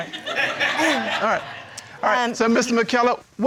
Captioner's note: crowd laughing